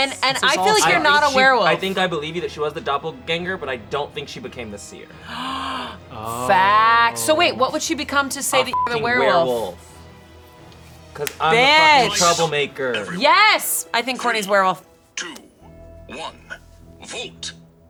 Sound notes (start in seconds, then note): 8.7 beep